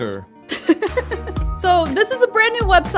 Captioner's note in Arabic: يضحك